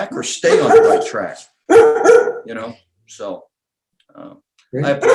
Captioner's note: dog barking